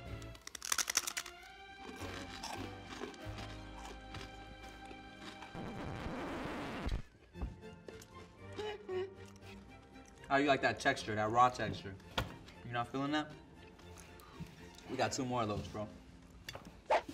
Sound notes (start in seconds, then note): 0.1 bread cracks; 1.8 bread crunching; 5.5 music scratches